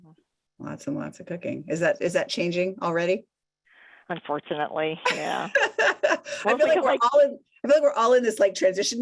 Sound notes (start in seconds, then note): 5.7 laughs